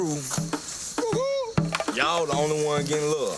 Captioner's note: man howling